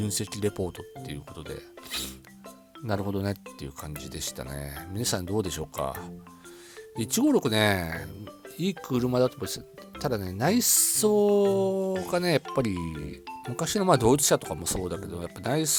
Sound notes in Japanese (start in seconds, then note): 1.9 鼻息